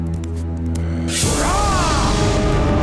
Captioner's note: grunting